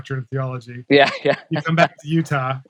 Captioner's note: laughing